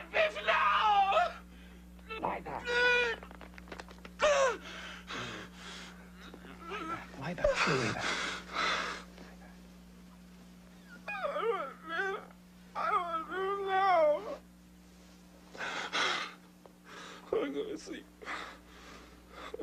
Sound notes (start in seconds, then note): 3.4 Phineas cries, moans, grunts; 17.6 cries